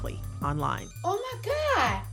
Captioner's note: soundbite of archived recording